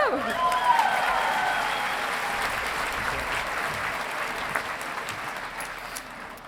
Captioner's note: audience applauding and cheering